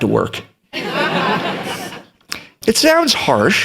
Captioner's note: laughter